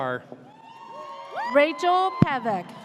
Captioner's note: audience cheers